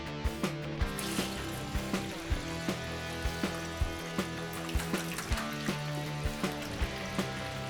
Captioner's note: lively music; water sloshing